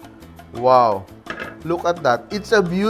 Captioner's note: rattle